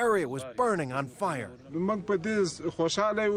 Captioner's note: speaking foreign language